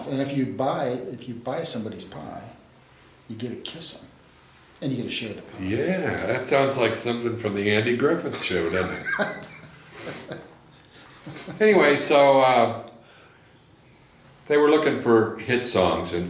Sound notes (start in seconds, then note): 8.3 laughs